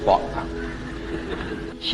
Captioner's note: laugh